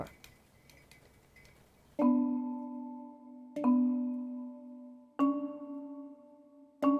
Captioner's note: paintbrush taps; gentle instrumental music